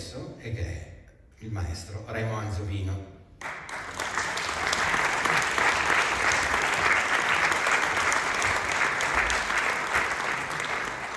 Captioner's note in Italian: Applauso